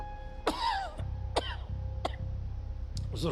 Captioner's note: coughs